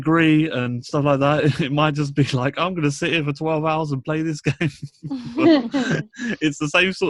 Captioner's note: laughs